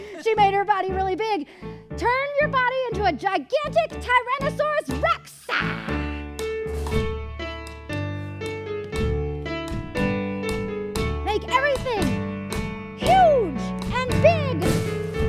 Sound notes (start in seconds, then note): 5.5 grunting; 6.1 playful music